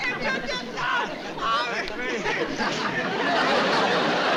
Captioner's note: laughs